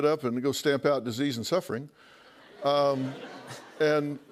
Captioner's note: laughter